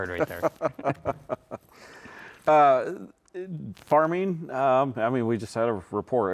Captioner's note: laughs